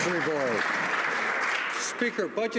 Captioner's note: some Applause